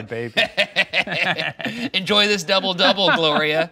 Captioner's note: both laughing